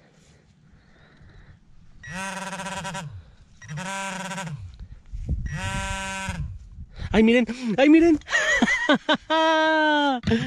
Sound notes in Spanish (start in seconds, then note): 2.2 sonido del pin pointer